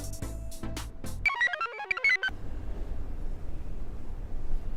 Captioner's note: computer chirps